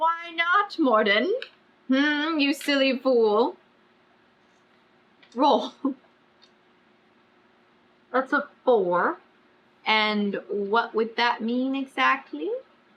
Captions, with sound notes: WHY NOT MORDEN HM YOU SILLY FOOL ROLL [LAUGHS] THAT'S A FOUR AND WHAT WOULD THAT MEAN EXACTLY